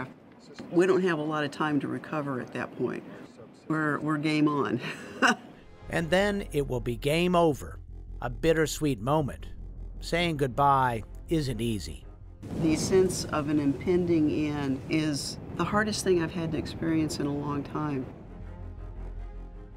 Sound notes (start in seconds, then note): 4.8 laughter